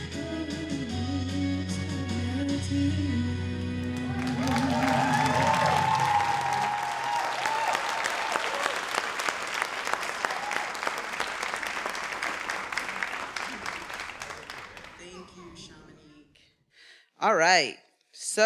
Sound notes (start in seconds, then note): 4.6 everyone applauding and cheering